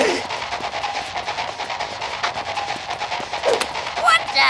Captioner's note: gasping